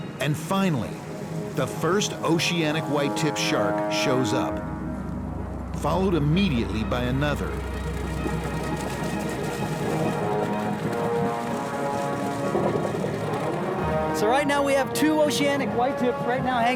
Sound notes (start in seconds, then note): 7.9 boat engine roars; 7.9 suspenseful music continues